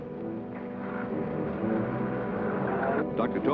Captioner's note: car rumbling